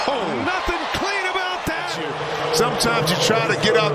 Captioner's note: cheers and applause; crowd noise